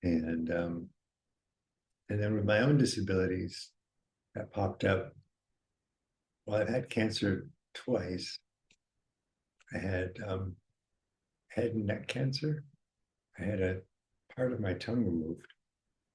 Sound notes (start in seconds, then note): none